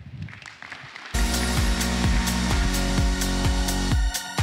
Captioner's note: applause